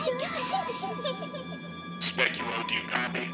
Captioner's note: child giggles